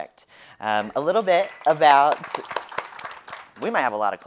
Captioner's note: audience applauding